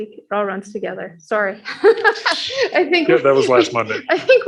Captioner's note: laughing